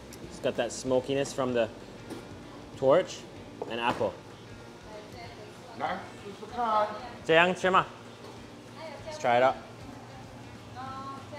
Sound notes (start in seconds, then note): 5.8 speaks in foreign language